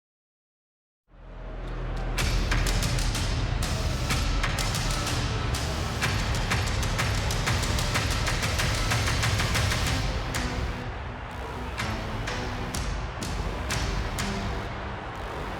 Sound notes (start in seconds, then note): 1.5 audience cheering; 1.5 dramatic music